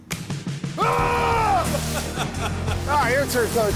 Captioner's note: screaming